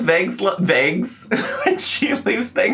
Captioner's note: laughs